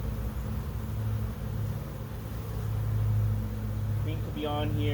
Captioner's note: bees buzzing